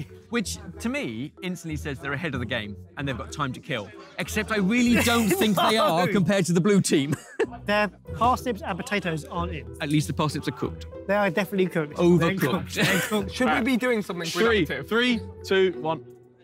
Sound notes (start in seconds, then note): 4.8 laughs; 12.4 laughs